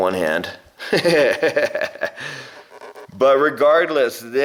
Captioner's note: laughing